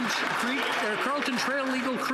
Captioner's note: some Applause